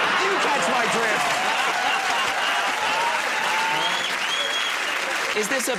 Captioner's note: laughter